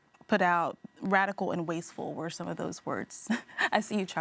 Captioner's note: chuckling